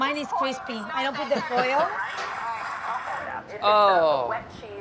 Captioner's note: laughs